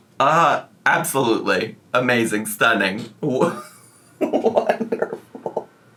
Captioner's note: laughing